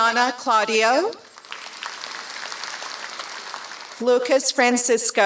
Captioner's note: applause